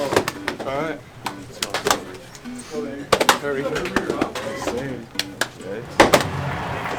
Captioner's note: background conversations